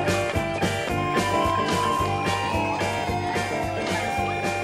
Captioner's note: recess bell ringing